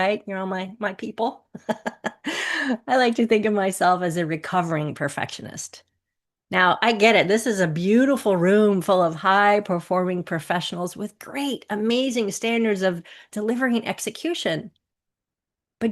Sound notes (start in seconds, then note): 1.5 chuckles